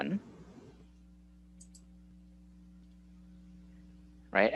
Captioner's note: sounds of keyboard clicking